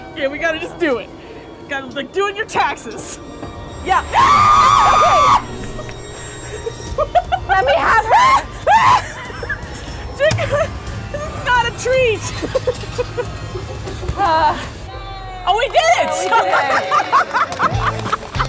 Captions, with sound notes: - Okay, we gotta just do it. Gotta do it and your taxes. (screaming) - Let me have her. - Dear God, this is not a treat. (cheering) Oh, we did it. (laughing)